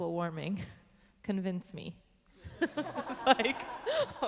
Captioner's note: laughing